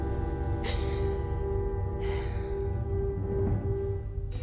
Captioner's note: McKENNAH SIGHS